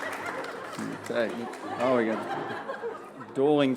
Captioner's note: applause; laughter